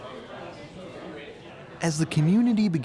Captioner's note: comic store patrons chattering